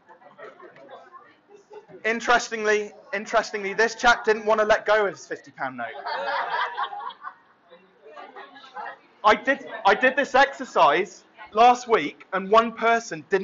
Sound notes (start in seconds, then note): 5.8 laughter